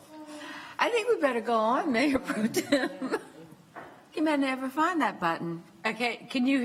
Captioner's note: laughter